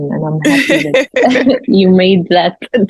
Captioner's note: laughs